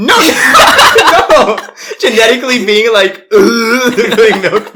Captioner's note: laughs